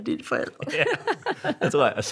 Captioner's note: laughter